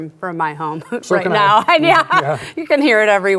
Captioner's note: laughs